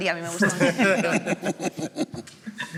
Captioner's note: laughs